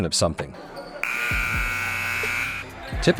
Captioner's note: buzzer sounds